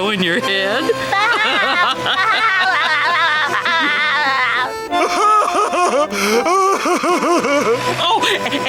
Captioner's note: laughing